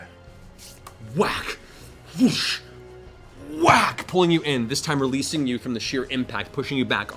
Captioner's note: whack, whoosh, whack